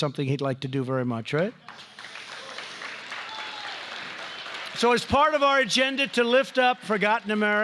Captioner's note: applause